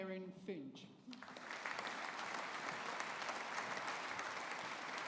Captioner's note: audience applauding